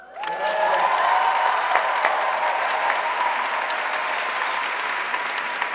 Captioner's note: audience cheering and applauding